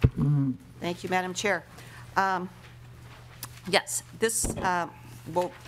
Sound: gavel

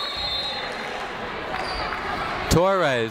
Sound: whistle tweeting

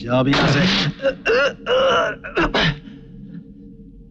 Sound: groans

